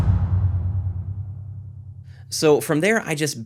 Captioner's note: drum sound effect